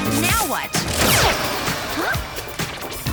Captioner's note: buzz